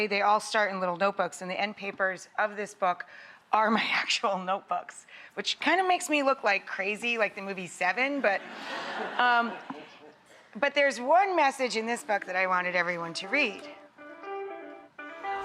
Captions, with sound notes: They all start in little notebooks and the end papers of this book are my actual notebooks. Which kind of makes me look like crazy like the movie Seven. (laughter) But there's one message in this book that I wanted everyone to read. (upbeat music)